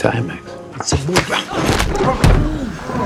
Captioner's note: gunshot